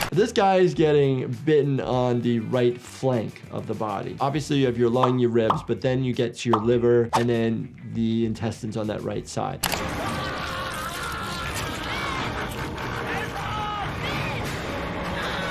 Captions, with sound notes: This guy is getting bitten on the right flank of the body. Obviously you have your lung, your ribs, but then you get to your liver and then the intestines on that right side. (man screaming) (people shouting)